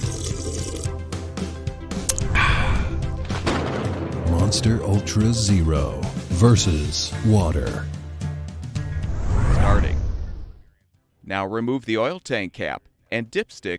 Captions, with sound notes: *sips* *smacks lips* Ahh! Monster Ultra Zero vs. Water